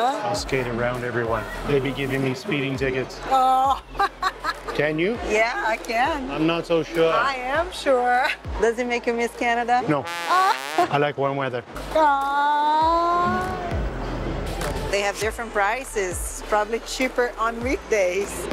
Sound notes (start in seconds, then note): 3.4 laughs